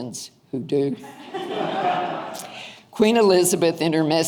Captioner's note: audience laughing